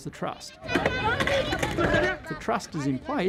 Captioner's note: children playing